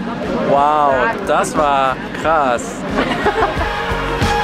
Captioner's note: laughter